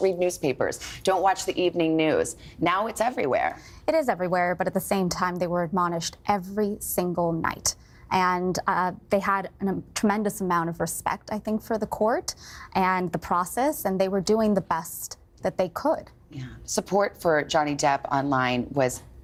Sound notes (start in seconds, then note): none